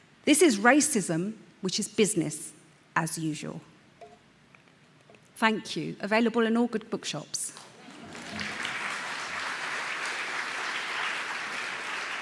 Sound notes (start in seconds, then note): 7.6 audience claps